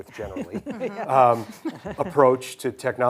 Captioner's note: hosts laughing